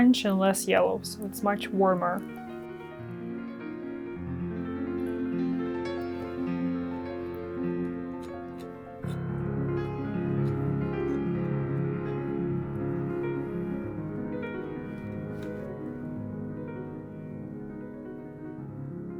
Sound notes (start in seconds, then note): 3.2 soft piano music; 8.1 trowel softly scraping